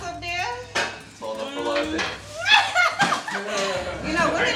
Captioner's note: laughs